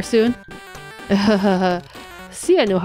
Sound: nervous laughing

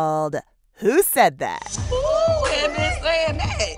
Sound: soundbite of tv show, "the real housewives of atlanta"

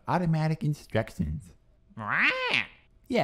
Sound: squawks

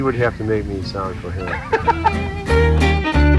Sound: laughter

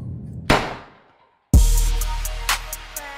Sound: gun fires; dark hip-hop music

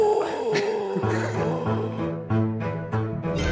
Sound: pretends to sound like a zombie; laughter

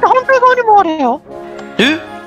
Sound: surprised gasp reax

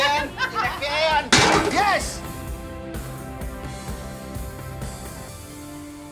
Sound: can smashes; upbeat music

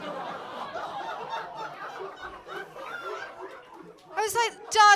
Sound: laughter

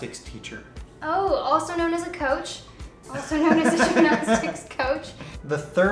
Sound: laughs

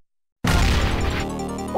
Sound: crash!

